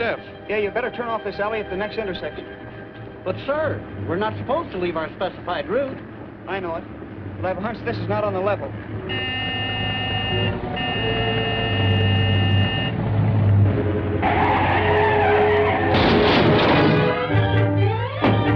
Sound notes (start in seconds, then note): 8.8 honking